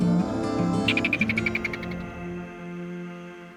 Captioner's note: ferret chirping